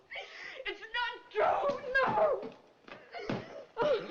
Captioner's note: sobbing